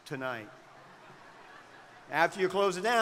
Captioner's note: crowd laughing